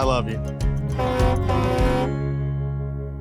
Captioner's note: truck horn blowing; light upbeat music